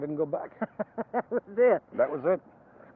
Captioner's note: laughs